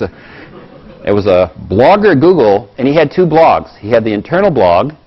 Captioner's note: laugh